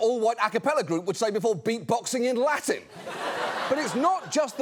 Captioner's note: audience laughs